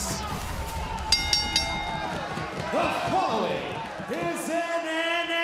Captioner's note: bell rings